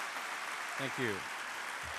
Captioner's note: applause